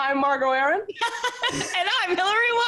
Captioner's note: laughs